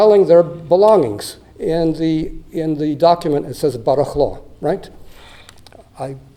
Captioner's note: non-english